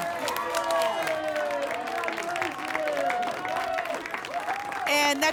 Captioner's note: applause and cheering